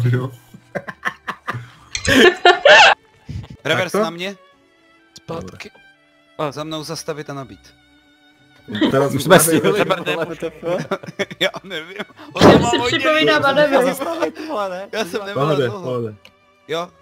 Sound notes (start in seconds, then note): 9.4 laughing nervously; 9.6 slight laughter